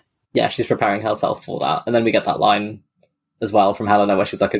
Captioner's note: none